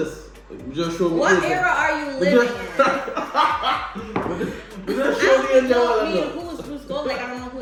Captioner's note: laughter